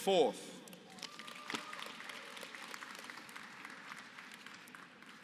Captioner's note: applause